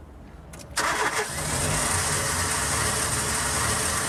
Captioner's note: engine revving